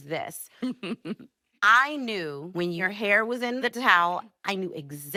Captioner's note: chuckles